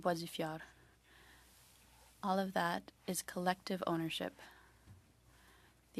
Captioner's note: speaking French